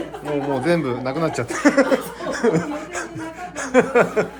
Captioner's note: laughs